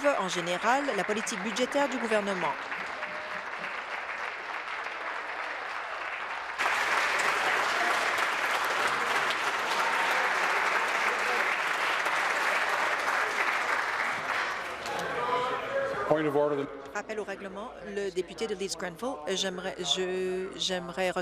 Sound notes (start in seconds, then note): 3.2 applause